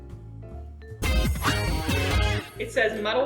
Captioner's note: kid's channel wand sting